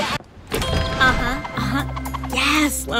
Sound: chimes

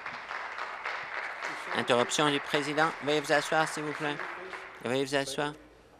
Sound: applause

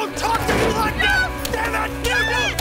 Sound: screams

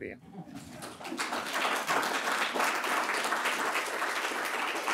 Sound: audience applauding

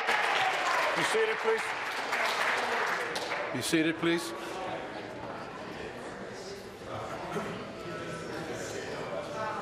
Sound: applause

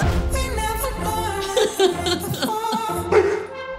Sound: laughs

